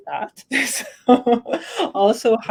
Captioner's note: laughter